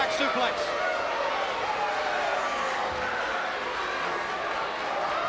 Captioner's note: crowd cheering